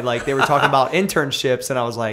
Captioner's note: laughter